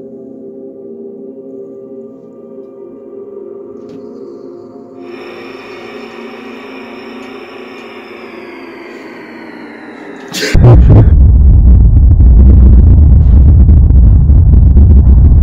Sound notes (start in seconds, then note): 4.9 music Intensifies; 10.5 indiscernible static sounds